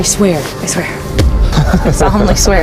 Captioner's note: laughs